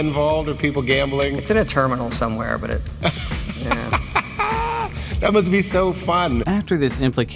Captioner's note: laughing